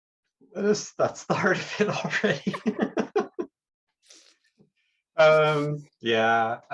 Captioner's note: laughs